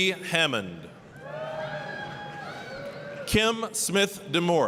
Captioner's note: applause, cheering